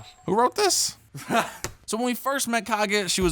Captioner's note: laughs